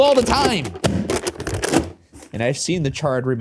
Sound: bucket booming

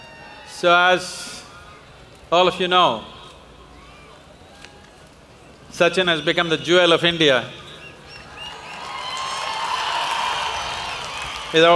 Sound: applause

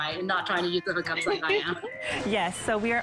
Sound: laughter

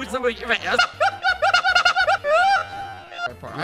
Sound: laughs strangely

